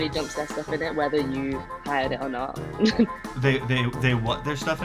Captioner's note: laughs